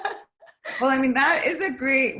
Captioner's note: laughs